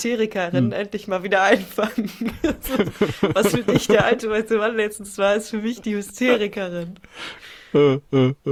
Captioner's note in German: gelächter